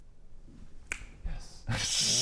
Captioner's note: snap